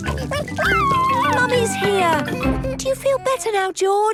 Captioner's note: George crying